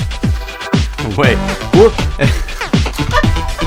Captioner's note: laughing